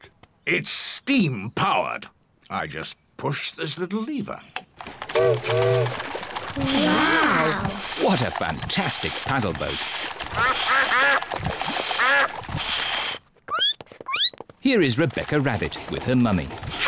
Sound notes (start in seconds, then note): 4.8 chimney toots; 10.4 ducks quack; 13.2 squeaks